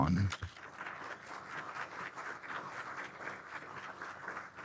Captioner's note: audience applauds